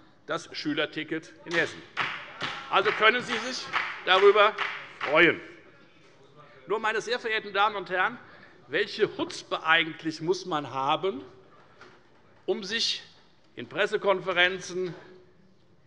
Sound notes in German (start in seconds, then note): 1.5 Beifall bei der FDP